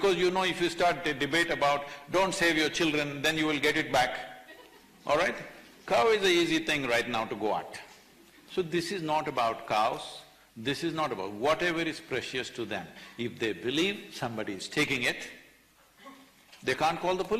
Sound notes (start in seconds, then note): 4.4 few laugh